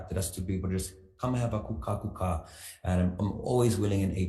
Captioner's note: speaks foreign language